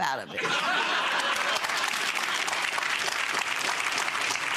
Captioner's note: audience laughing; audience applauding